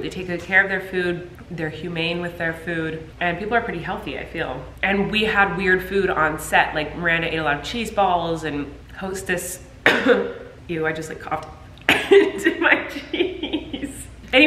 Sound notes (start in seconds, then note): 9.8 coughs; 11.9 laughs